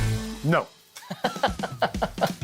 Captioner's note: laughs